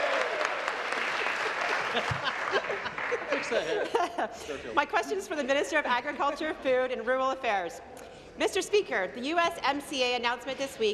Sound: applause

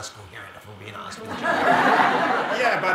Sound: audience laughing

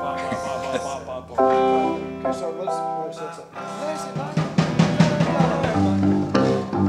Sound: chuckles; chattering; tuning

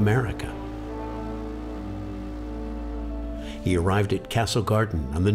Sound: horn blows

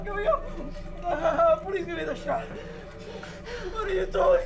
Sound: mutters

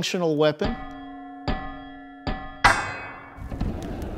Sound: clanging

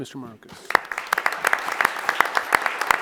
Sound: applause

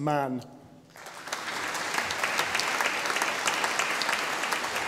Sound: audience applauding

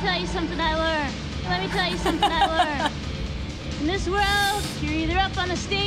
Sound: laughs

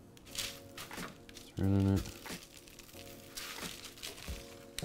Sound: paper crinkles

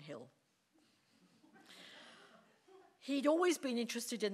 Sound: audience laughing

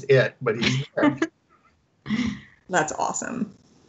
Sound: laughs

